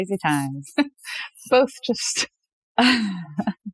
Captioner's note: <laugh>